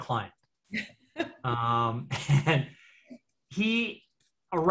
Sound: laughs

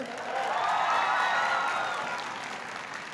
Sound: applause

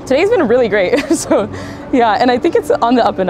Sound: laughs

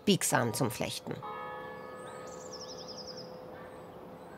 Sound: church bells, birds chirping

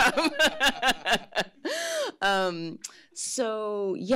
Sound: laughs

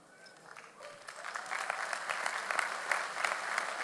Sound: audience applauds

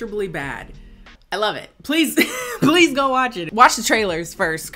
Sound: laughs

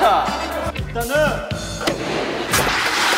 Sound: sudden bang!

